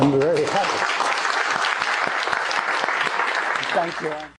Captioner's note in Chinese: Applause; 掌聲